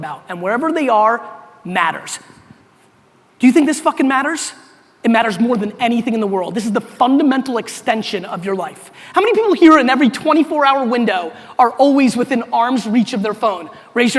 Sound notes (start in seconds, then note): none